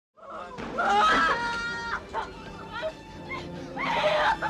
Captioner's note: screaming